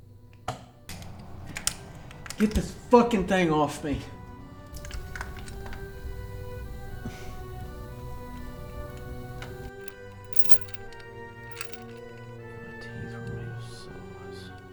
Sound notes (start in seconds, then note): none